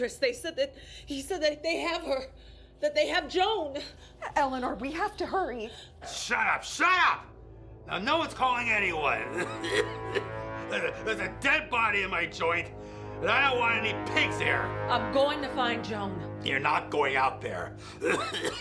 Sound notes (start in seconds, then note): 8.8 coughs